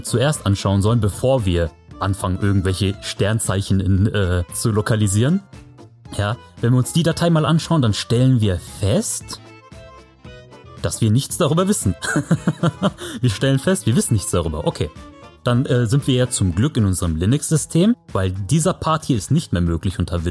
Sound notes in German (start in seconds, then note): 12.0 lachend